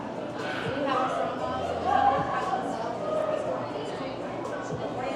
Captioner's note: people chattering continues